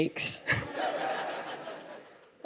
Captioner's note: laughter